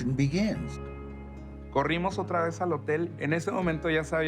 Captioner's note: in English; in Spanish